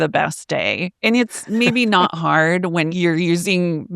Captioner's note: laughs